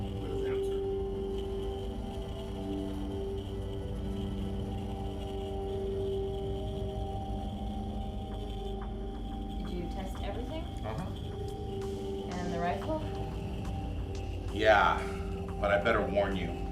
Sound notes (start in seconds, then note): 1.6 phone buzzing